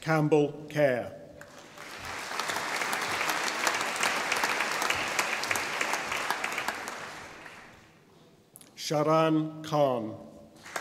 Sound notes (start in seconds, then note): 1.4 audience applauding; 10.6 audience applauding